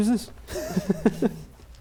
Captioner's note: laughs